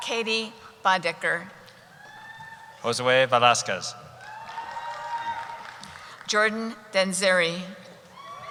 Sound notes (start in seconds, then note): 4.1 cheering; 8.1 cheering